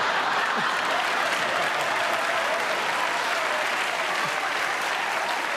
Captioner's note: laughter and applause